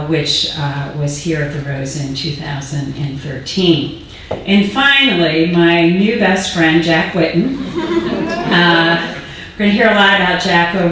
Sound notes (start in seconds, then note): 7.4 audience laughing